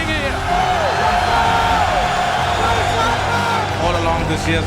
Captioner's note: crowd cheering